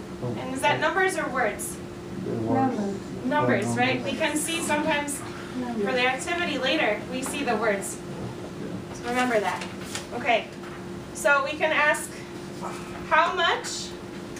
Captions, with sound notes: And is that numbers or words? - [Voiceover] Numbers. - Numbers right. We can see sometimes for the activity later, we see the words. So remember that. Okay, so we can ask how much?